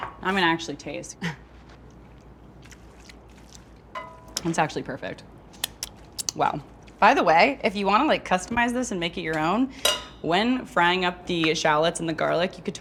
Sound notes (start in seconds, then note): 1.6 munching; 6.1 smacking lips